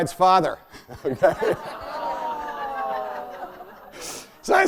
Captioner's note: audience groans